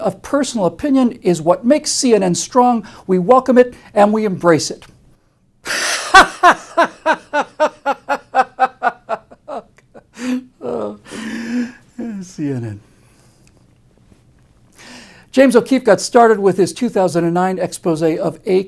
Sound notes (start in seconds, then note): 5.7 laughter